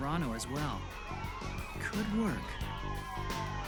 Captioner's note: police sirens wailing